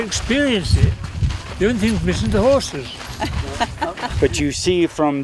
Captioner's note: laughter